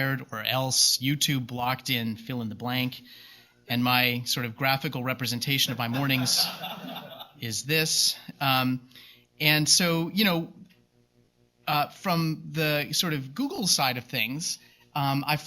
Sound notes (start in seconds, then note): 5.8 laughter